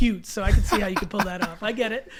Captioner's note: Allen laughs